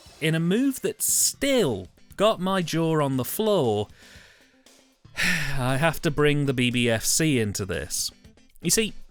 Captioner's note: sigh